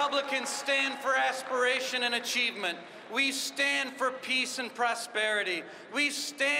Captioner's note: applause